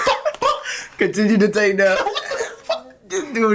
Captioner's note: laughing